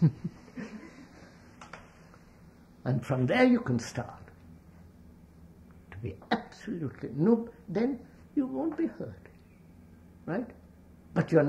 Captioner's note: laughs